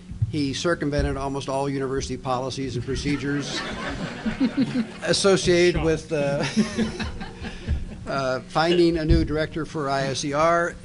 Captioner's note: laughter